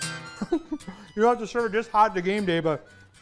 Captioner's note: laughs